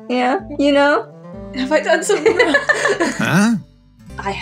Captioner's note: laugh